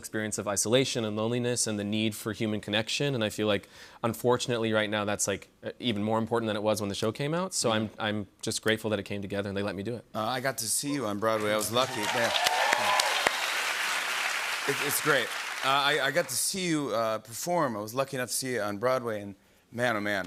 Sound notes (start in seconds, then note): 11.4 cheers and applause